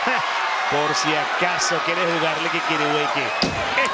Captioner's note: commentator speaking Spanish; door slams